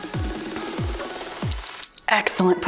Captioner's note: timer beeps